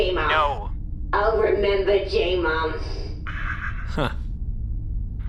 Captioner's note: Nermut inhales